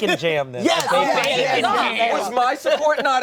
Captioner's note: collective cheering